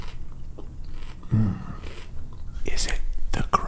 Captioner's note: moans